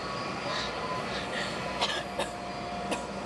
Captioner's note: coughing